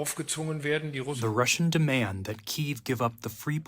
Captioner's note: through translator